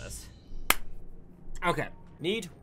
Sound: clap

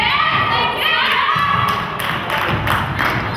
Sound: crowd; crowd claps

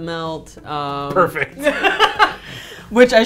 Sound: laughs

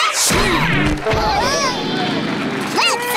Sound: laughing; thudding

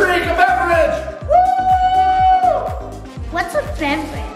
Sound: dad celebrating

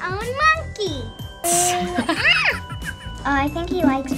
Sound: mom laughs

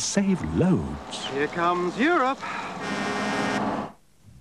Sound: truck honks

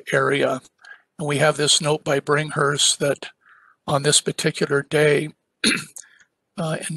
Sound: cough

